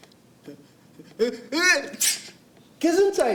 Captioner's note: sneezes